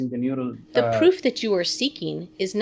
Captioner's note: synthesized voice